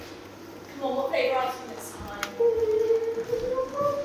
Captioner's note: Deb sobs